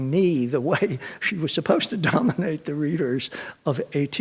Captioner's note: chuckles